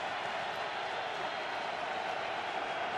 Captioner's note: crowd cheering